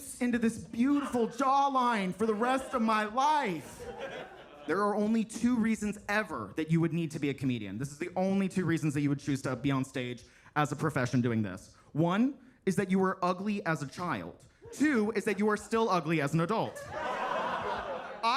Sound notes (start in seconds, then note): 3.7 attendees laughing; 16.6 attendees laughing